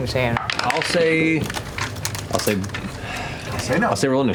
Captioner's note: sighs